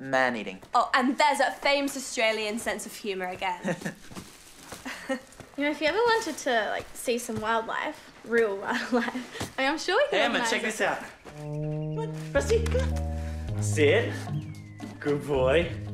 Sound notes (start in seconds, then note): 4.8 giggles; 4.8 chuckles